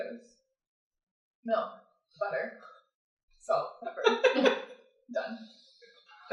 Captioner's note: laughter